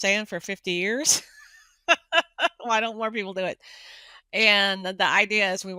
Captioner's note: laughing